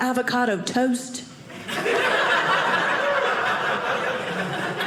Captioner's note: audience laughing